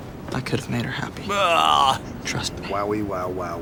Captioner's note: disgruntled therapist noise